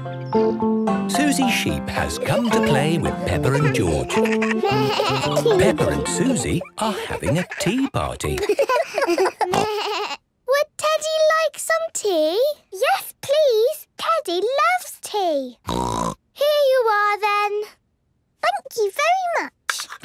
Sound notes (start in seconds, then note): 8.5 giggles, snorts; 15.6 snort